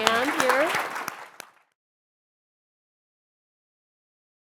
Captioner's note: applause